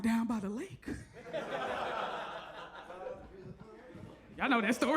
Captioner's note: audience laughs